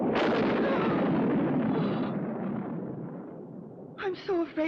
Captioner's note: thunder crashing; Elfie gasps